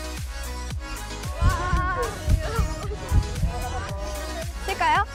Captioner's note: thumping heart